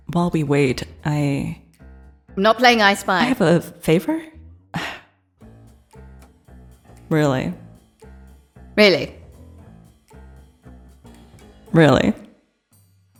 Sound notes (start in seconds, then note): 5.9 scoffs